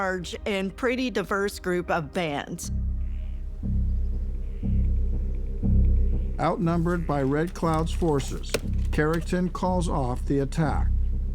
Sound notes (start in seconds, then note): 3.0 tense music; 3.0 wind whooshing